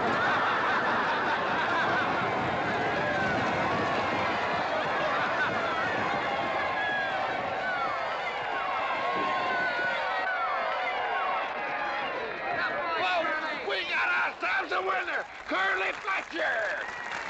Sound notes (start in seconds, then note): 0.0 crowd laughing; 3.5 crowd cheering